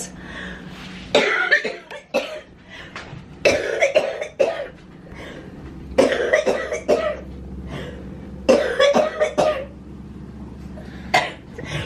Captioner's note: coughing